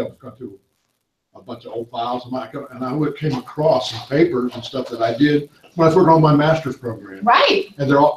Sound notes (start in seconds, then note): 1.4 audience discussion